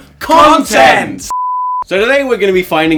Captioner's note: beep